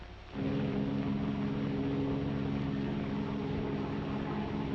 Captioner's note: plane rumbling